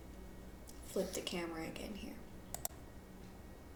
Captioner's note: mouseclick